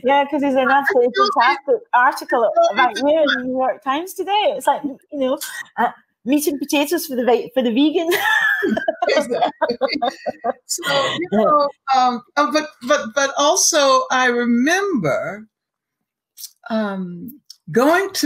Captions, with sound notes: - Yeah, 'cause there's an absolutely fantastic article about you in The New York Times today. It's like meat and potatoes for the vegan. (laughing) - But also I remember, going to the theatre in New York,